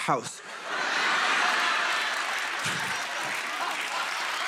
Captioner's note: laughter